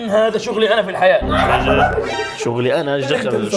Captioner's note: laughs